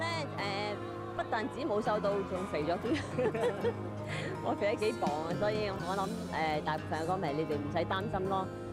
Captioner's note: laughs